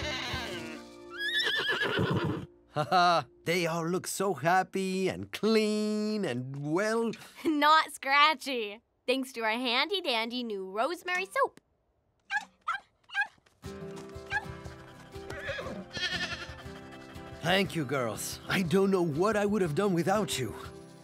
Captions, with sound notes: [whinny] Ha-ha! They all look so happy, and clean, and well-- Not scratchy. Thanks to our handy dandy new rosemary soap. [barking] [whinny] [bleating] Thank you, girls. I don't know what I would have done without you.